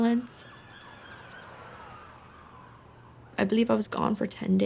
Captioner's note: sirens